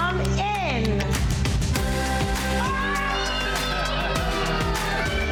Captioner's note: children yelling excitedly